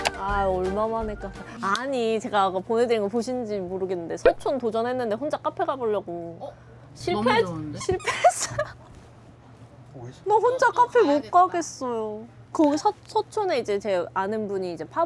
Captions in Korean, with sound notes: 아, 얼마만에 카페? 아니, 제가 보내 드린 거 보신지 모르겠는데 서촌 도전했는데 혼자 카페가 보려고. 어, 실패했 실패했어요. [웃음] 나 혼자 카페 못 가겠어요. 거기 서촌에 이제 제 아는 분이 이제